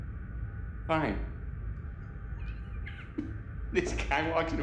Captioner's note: chuckles